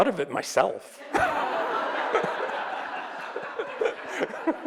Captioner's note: laughing